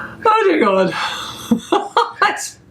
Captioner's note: laughing